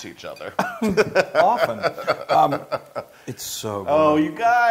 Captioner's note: laugh